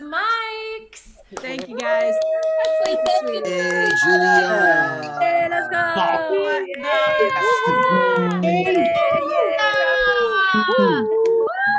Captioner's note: cheering